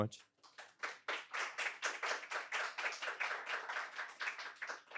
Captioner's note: audience applauding